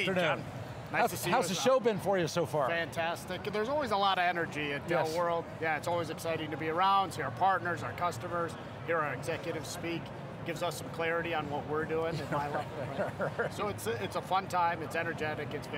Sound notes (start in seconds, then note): 12.1 men Laugh